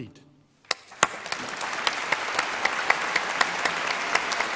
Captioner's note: applause